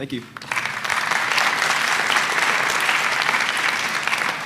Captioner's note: applause